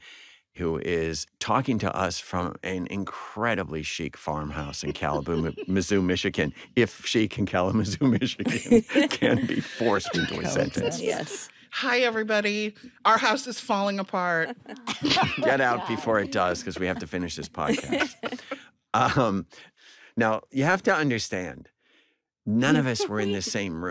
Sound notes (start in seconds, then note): 4.4 laughing; 14.4 all chuckle